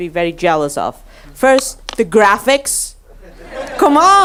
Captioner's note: audience laughs